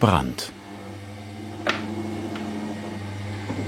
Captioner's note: machine whirring